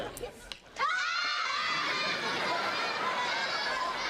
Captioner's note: kids laughing